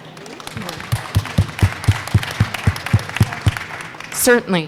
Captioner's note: crowd clapping